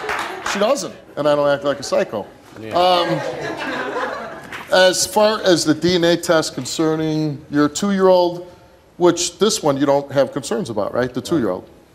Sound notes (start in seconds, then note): 2.7 audience laughing